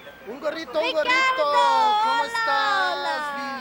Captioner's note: speaking in foreign language